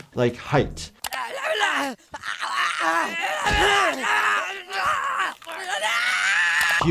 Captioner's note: Timmy and Jimmy grunting and screaming